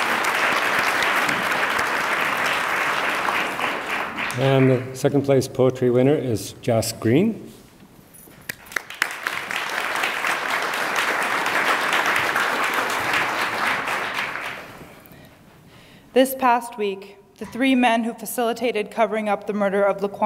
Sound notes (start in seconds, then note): 8.5 attendees applaud